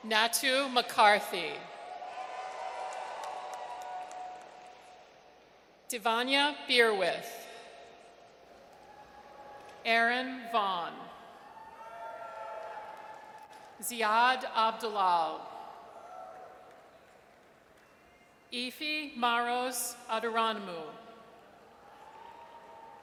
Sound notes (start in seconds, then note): 1.9 audience cheers; 8.6 audience cheers; 11.4 audience cheers; 16.0 audience cheers; 21.7 audience cheers